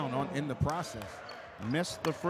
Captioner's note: clapping